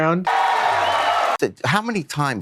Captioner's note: crowd cheering